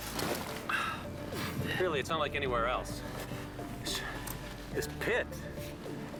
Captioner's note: sighs